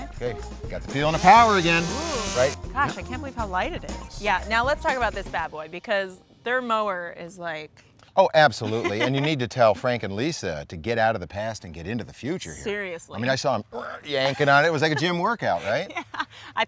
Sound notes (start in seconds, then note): 1.0 tool sound; 8.5 laughing; 15.9 laughing